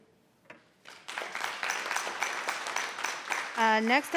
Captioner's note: audience applauds